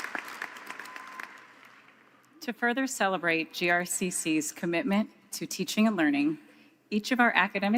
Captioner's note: applause